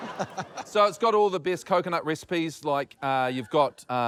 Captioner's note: chuckles